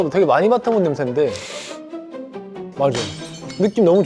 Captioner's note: sniff sniff